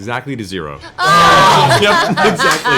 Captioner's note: cheering